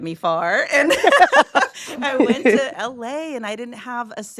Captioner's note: laughs